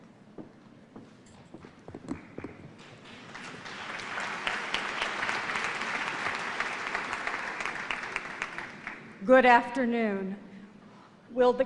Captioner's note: applause